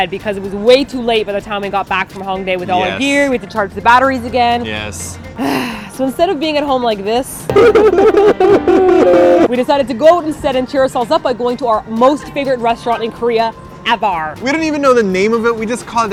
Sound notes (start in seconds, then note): 5.4 sigh; 7.5 crying